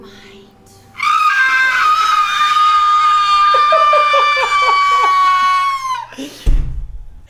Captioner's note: high pitched shreaking; laughing